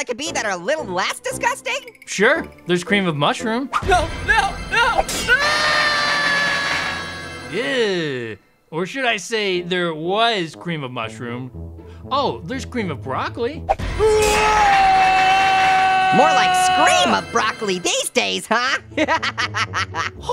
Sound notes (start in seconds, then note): 5.2 screams; 14.0 Cream of Broccoli screams; 18.9 laughs